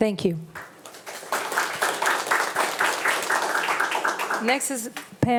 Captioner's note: attendees applauding